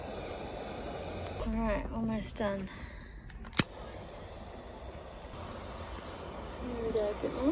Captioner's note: lighter hisses happily; lighter clicks and hisses